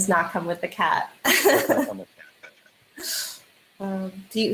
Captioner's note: laughs